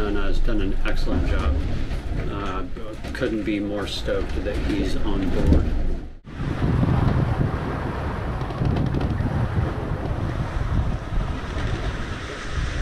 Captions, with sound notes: And has done an excellent job. Couldn't be more stoked that he's on board. [wind]